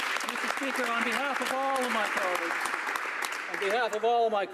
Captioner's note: applause